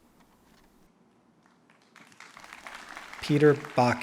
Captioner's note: applause